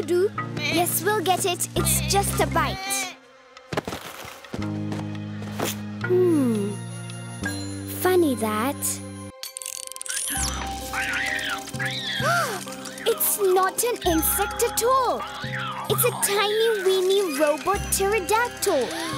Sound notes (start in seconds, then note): 10.0 screeching; 12.2 Sema gasps